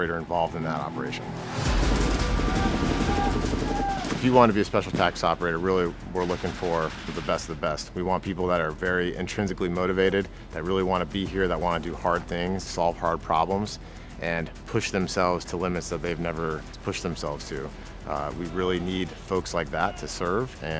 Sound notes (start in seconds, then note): 1.9 soldiers shouting; 2.8 dramatic music